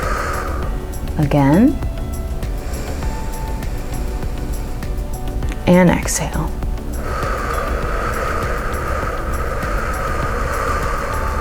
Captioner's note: inhales for three; exhales for six